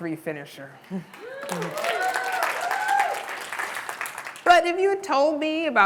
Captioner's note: audience applause